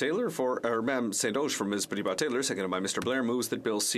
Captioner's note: speaking French